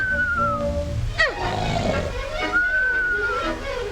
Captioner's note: gnome grunting